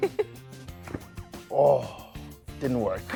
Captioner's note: laughs; fire popping